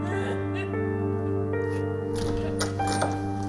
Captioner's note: sobbing